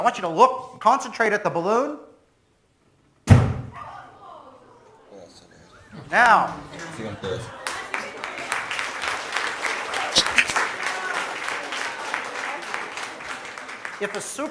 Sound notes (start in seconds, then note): 3.2 loud Bang; 3.2 surprise and exclamations from the audience; 6.4 audience applauds